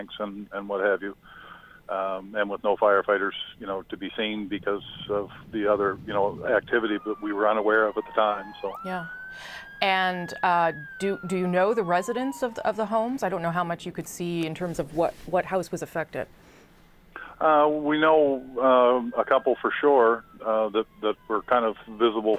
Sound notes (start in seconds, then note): 12.6 sirens